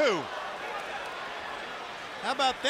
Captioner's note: crowd chatter